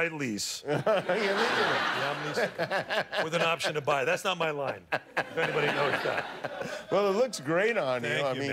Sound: laughter

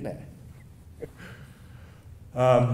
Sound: laughing

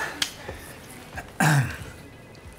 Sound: clears throat

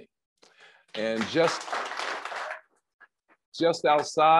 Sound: crowd applauds

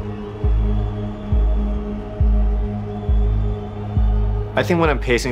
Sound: crowd cheering

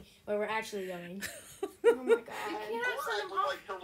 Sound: laughter

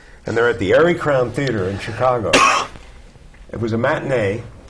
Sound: cough

